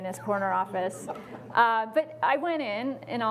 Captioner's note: laughing